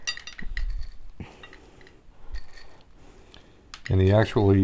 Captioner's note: silence